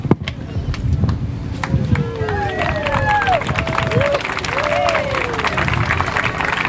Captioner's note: applause